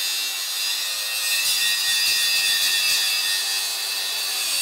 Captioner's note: metal grinding